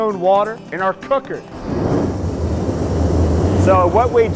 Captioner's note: machine whirring